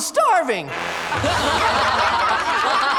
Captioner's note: laughter